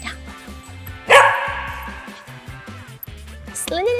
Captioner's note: dog barks